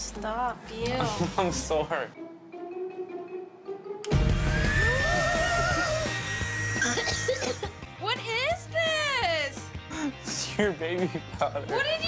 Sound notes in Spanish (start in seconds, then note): 5.1 gasps; 6.0 coughs